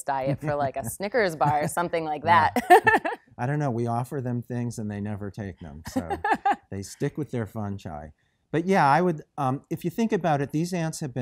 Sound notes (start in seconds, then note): 2.2 chuckles